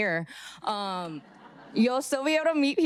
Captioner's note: audience laughing